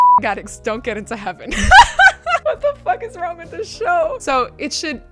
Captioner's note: laughing